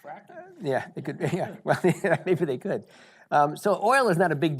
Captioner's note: chuckles